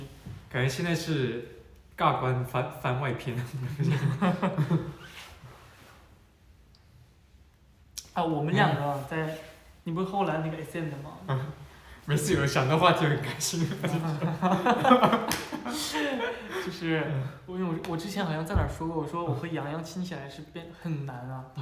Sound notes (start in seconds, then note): 13.6 hahahah